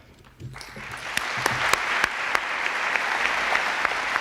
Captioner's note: applause